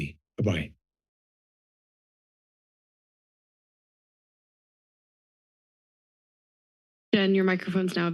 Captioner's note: silence